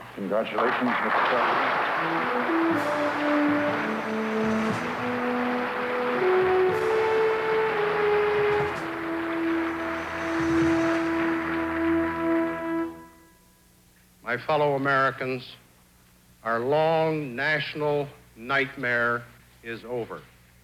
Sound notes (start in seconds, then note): 2.3 audience applauding; 8.5 applause continues